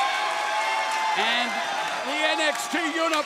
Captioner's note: crowd cheering